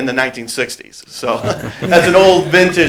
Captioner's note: group laughter